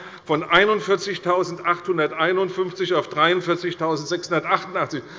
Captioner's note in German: none